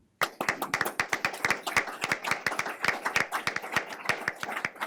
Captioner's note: everyone applauds